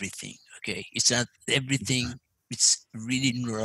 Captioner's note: laugh